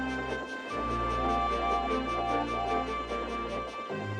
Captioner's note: whistles